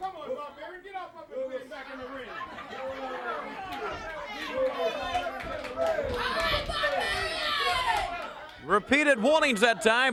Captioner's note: crowd chatter